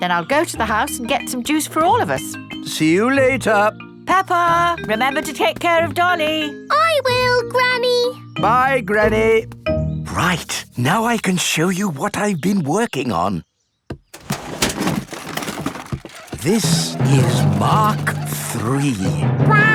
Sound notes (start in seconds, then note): 14.1 clattering